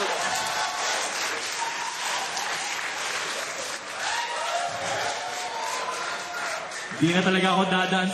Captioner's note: laughter, applause